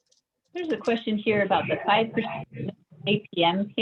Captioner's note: sound distorts